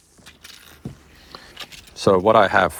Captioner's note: metal clinking